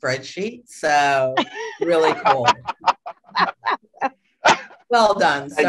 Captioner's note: laughter